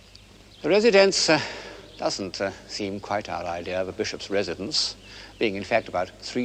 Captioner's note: sigh